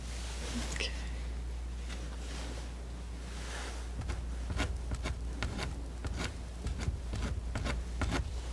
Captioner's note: tapping